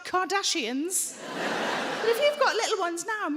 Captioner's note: audience laughing